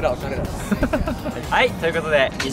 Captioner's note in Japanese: 笑い声